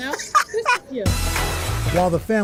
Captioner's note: laughter